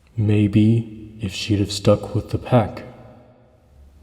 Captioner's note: none